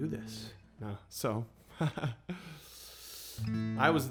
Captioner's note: lightly chuckles